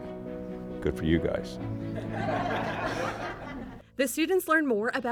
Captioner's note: laughter